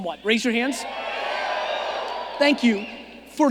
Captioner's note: audience cheering